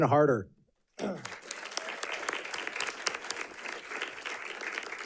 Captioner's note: audience clapping